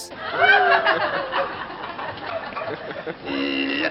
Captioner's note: crowd laughs